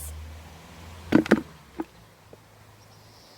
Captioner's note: sound of crud being put in bin